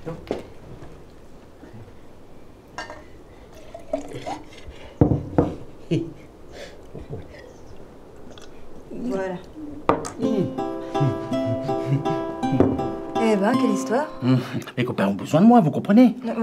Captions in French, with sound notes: (bruit de vaisselles) Voilà. (musique douce) Et bien quelle histoire. - Mes copains ont besoin de moi vous comprenez